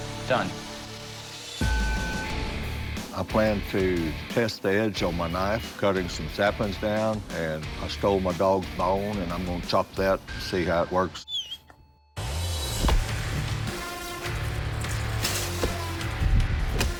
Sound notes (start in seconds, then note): 11.2 dog whining; 12.2 dramatic music